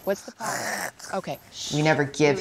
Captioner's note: groan